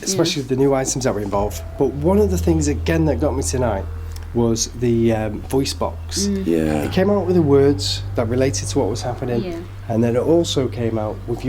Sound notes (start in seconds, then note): 6.0 both murmuring agreement